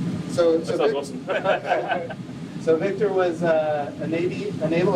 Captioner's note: lauger